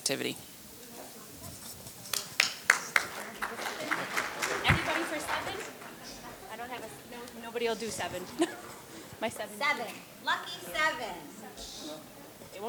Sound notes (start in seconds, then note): 1.6 audience clapping